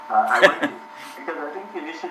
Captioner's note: laughs